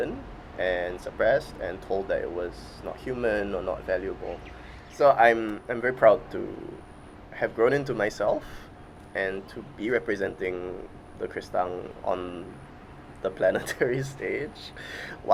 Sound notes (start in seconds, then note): 13.5 laughs